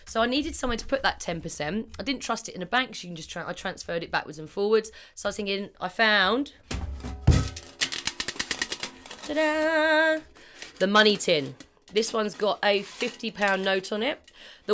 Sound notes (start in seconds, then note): 7.2 tin container rattling